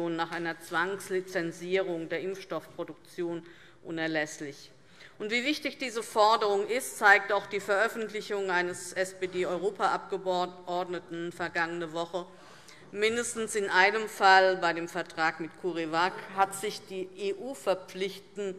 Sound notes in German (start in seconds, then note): none